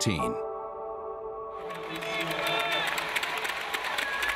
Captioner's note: clapping